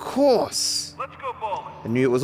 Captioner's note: voice echoes